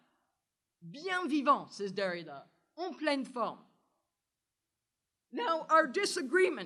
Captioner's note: french